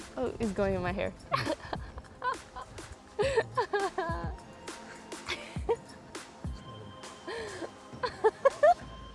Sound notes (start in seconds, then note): 3.1 laughs